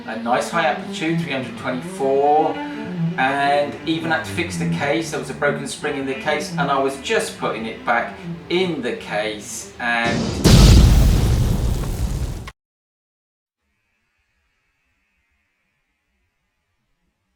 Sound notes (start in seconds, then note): 13.7 explosion!!!!!!